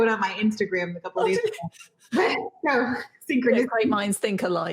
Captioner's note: giggles drowns out other sounds